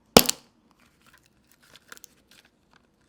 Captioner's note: pop